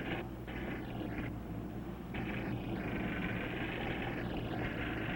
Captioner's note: machine humming